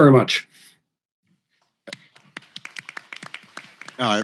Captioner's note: applause